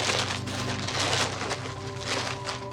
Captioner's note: paper rustling